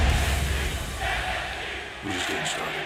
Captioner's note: fans chanting